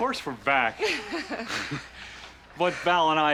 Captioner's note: both laugh